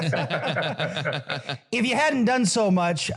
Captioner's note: laugh